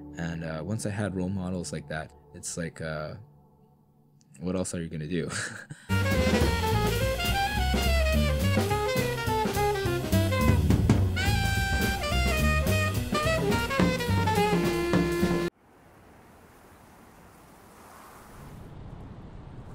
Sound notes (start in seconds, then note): 5.2 chuckles; 6.0 upbeat jazz music